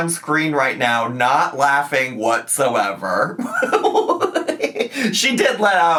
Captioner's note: laughs